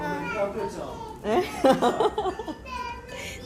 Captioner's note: laughing